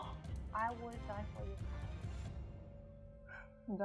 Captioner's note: gasping